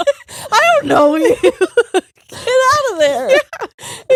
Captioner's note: both laughing